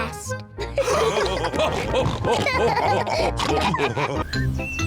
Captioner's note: all laughing